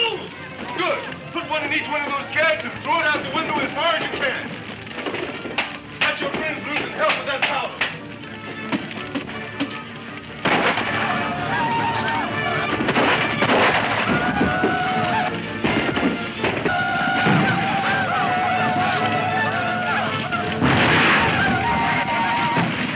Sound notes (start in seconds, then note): 10.1 men shouting; 10.4 gun firing; 20.3 explosion booming